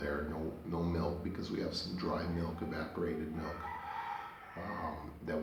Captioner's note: roosters crowing